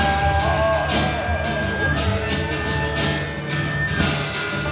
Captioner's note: humming